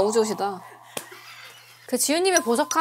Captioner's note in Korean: 웃음